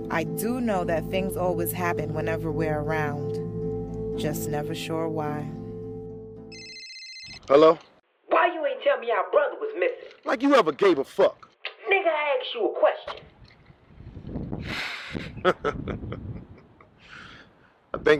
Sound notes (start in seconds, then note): 6.4 cellphone ringing; 14.8 laughing